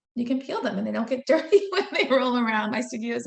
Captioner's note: laughing